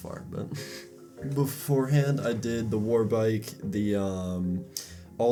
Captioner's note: chuckle; smacks lips